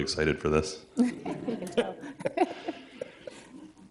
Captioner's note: everyone laughing